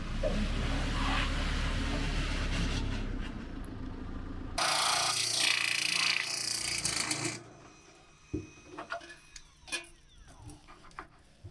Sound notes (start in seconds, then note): 4.6 drill drilling